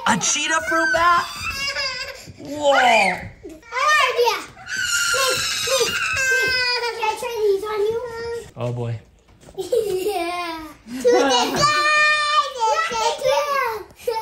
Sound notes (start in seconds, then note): 9.5 laughing